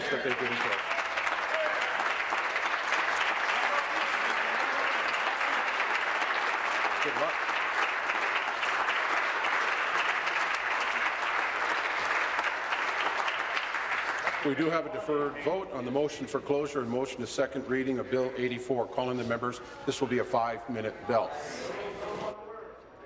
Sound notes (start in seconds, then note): 5.7 applause; 14.2 continued applause